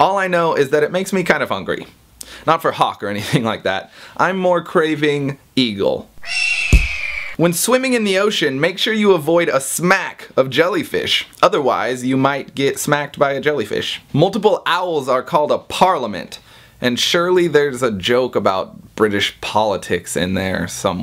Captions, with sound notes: All I know is that it makes me kind of hungry. Not for hawk or anything like that. I'm more craving... eagle. *eagle cry* *punch* When swimming in the ocean, make sure you avoid a 'smack' of jellyfish. Otherwise, you might get smacked by a jellyfish. Multiple owls are called a 'parliament', and surely there's a joke about British politics in there somewhere.